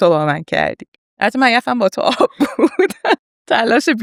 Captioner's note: laughs